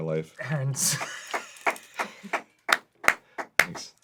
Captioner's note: crew applauds, he gets the win on this